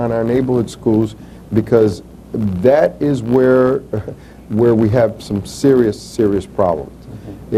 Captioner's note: chuckles